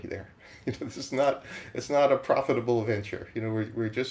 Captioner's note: chuckles